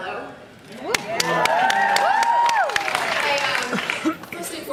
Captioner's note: cheers